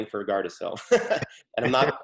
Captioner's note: both laughing